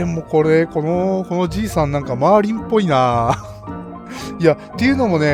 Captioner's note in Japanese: 笑い